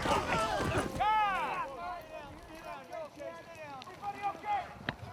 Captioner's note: all shouting; horses whinnying; overlapping chatter